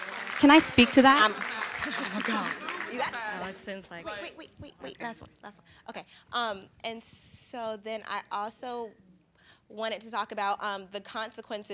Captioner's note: applause